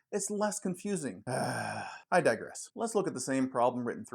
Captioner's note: grunt